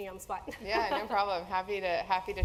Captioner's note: laugh